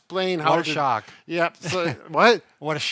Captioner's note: chuckles